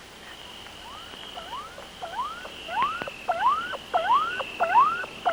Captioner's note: electronic beeping